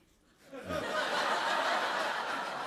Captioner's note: laughter